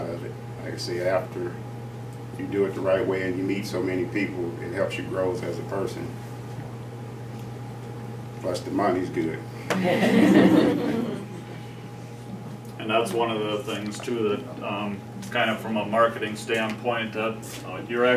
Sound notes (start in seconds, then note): 9.7 laughter